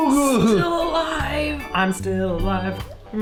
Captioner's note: strained; singing